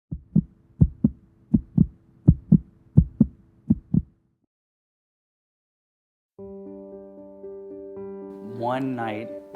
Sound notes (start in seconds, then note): 0.4 heartbeat thumping; 6.4 soft music